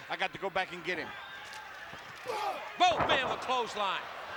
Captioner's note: applause